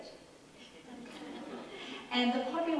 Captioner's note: audience laughs